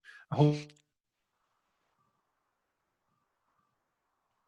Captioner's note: audio fades out